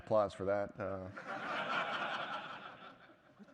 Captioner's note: laughter